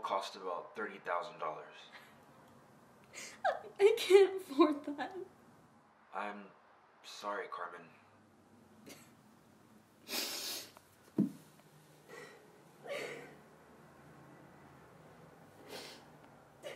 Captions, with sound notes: - The surgery will cost about thirty thousand dollars. - I can't afford that. - I'm... sorry Carmen. [sobbing]